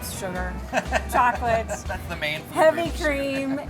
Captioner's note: laughs